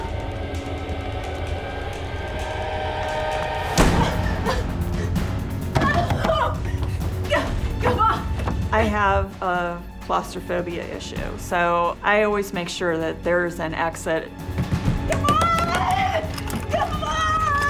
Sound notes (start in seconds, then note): 0.6 frantic music; 3.6 door slams; 5.6 gasps and bangs on door